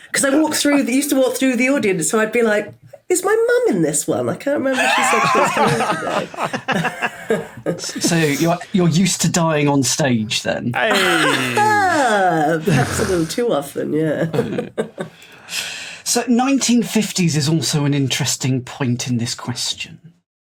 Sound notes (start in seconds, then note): 10.9 sarcastic laugh